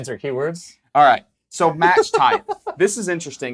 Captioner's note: laughs